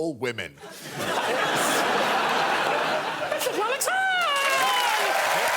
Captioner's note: laughter